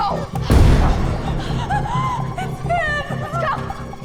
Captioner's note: AL Anvil hits; breathes